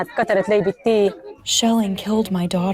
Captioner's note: through translator